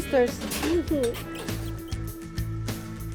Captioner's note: kisses